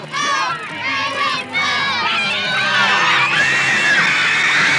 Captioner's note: women screaming